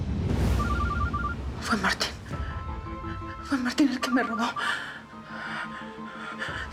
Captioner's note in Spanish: suena el celular